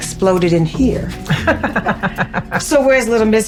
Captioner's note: both laughing